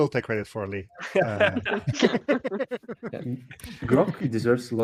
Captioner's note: laughing; laughs